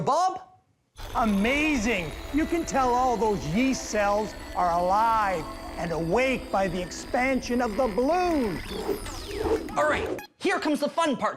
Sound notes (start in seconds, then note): none